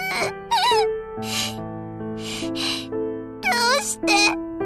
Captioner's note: whimpering